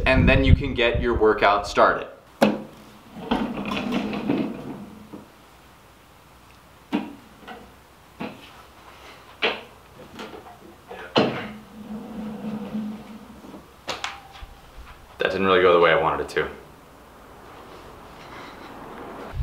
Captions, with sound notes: and then you can get your workout started. (wheels rumbling) (banging) (wheels rolling) That didn't really go the way I wanted it to.